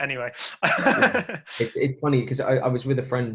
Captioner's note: laughter